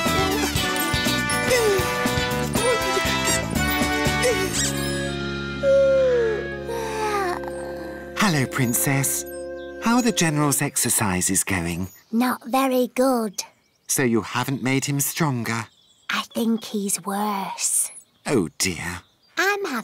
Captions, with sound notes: (yawns) Hello, Princess. How are the general's exercises going? Not very good. So you haven't made him stronger? - I think he's worse. - Oh, dear.